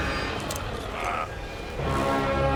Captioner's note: groans